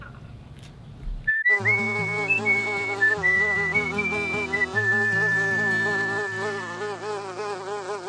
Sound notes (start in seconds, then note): 1.2 whistling logo, bee buzzing